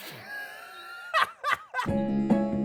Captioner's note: laughs; upbeat music